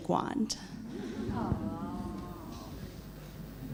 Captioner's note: laughs